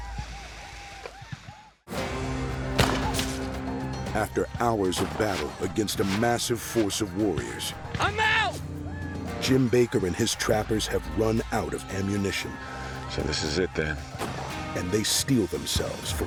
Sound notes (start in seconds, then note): 2.7 gunfire